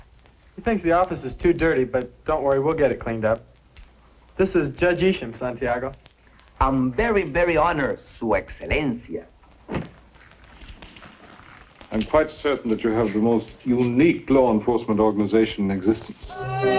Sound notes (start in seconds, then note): 7.7 spanish